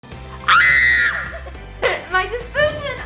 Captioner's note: screaming